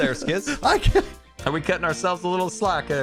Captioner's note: nervous laughter